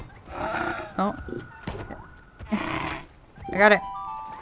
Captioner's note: small laugh